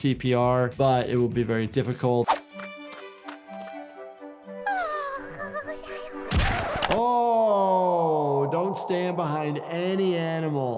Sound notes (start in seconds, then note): 2.1 upbeat music; 4.7 Petunia laughs